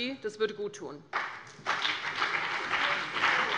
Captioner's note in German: Beifall CDU und BÜNDNIS 90/DIE GRÜNEN